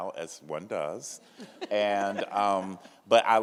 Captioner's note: laughs